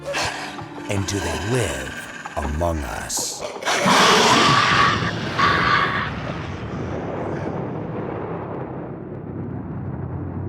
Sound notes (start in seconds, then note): 3.4 roars